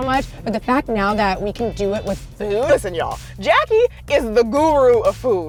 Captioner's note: none